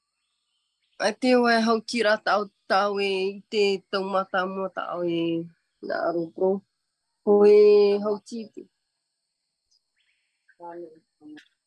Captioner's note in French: et sa mère parlent paumotu